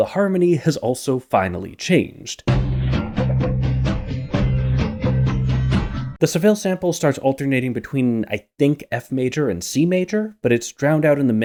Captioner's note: bang